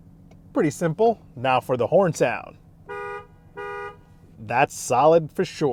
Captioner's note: car horn honking